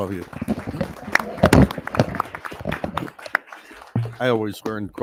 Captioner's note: people clapping